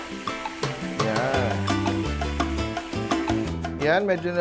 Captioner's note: sizzle; sizzzle